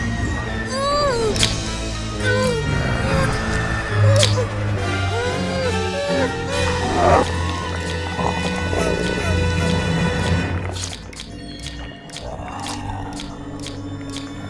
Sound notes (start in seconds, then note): 0.6 whining; 6.7 growling; 11.5 gurgling, claws snapping